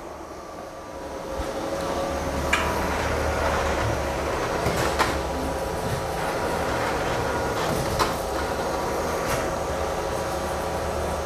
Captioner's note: printer machine noise